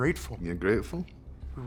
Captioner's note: scottish accent